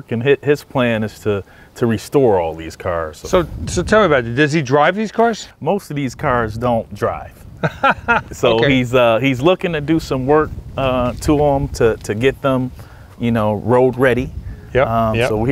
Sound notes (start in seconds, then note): 7.6 laughs